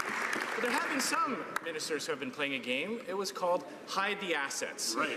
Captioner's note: some Applause